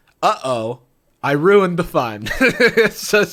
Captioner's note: laughs